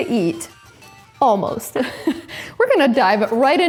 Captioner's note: laughs